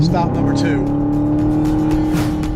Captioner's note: engine revving